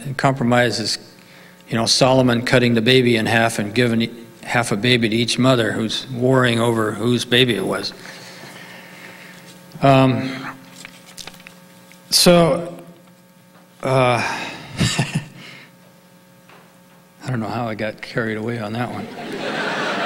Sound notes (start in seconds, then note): 14.7 laughs; 19.0 audience laughing